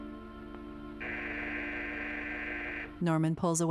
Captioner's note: doorbell buzzing